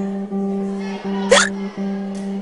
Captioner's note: hiccups